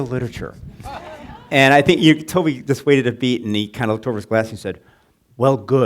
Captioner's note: laughing